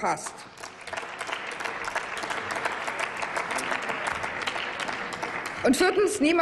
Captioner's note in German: Applaus